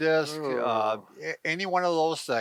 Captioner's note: groaning